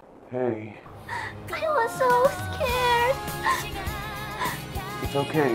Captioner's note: sobs